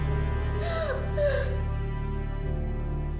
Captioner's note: sobs